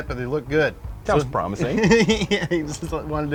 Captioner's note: laughs